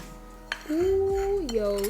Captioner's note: exclaims